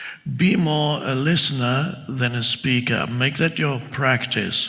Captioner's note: none